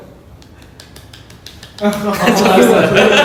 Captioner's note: clap